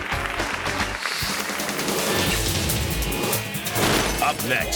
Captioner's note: audience cheering; hands clapping; upbeat music; graphics whooshing